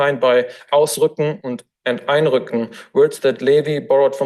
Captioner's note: foreign language